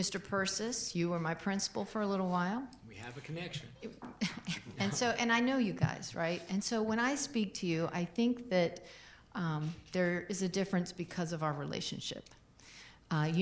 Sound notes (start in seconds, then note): 3.0 laughs